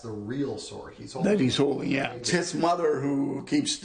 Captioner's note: voiceover